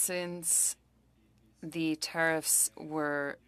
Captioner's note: speaking french